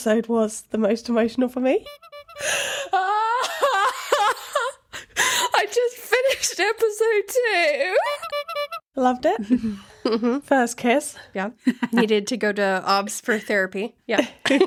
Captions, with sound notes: was the most emotional for me. (squeaking) I just finished episode two. Loved it. First kiss. Yeah, needed to go to Obvs for Therapy.